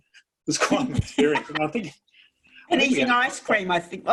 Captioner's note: laughs